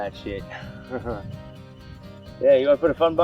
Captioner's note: laughing